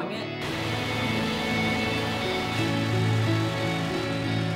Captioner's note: sounds of water